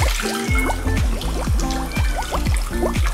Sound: meows

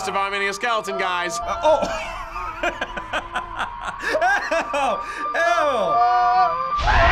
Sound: laughs; both screaming

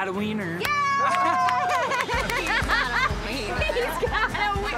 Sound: all laughing and clapping

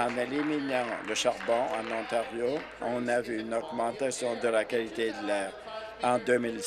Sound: applause

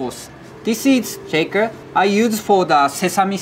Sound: text chiming

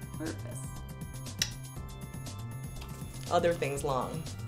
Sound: mouth smacking

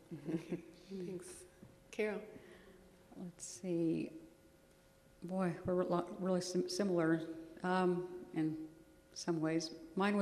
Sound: laughs

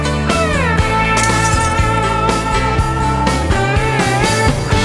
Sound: glass shattering

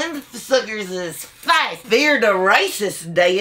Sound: none

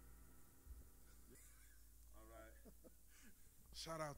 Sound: chuckles

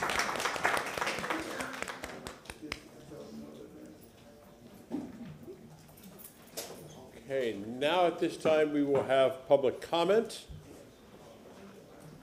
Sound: applause

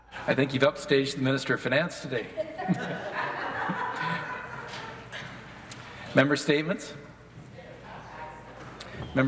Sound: laughter; some Applause

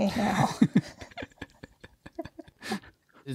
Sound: both laugh

